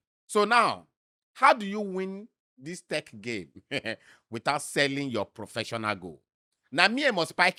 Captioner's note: chuckles